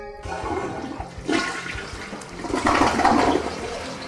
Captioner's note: toilet flushing